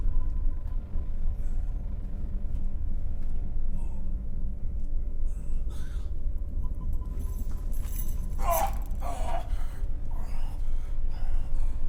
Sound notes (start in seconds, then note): 8.4 Brocheet groans